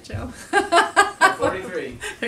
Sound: laughing

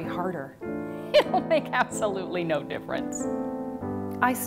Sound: laughing

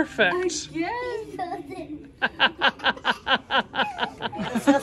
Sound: giggles

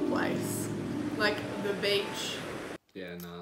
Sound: waves crashing

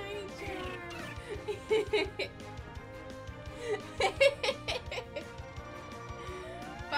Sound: laughs

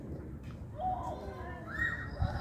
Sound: kids in the background

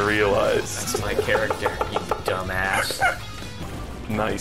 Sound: laughing

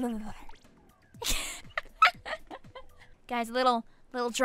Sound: giggles

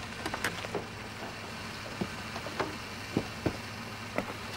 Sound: trunk door opens

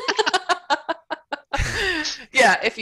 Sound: laughter

